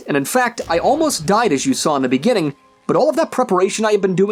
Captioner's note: none